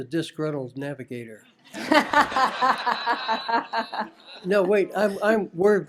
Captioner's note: laughter